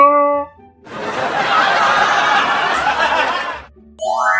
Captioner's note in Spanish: Risas